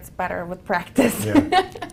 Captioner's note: laugh